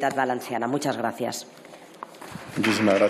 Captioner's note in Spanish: Aplausos